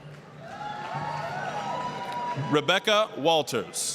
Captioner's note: applause, cheering